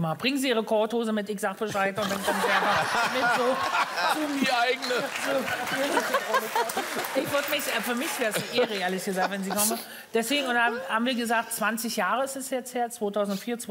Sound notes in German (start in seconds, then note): 4.5 Alle lachen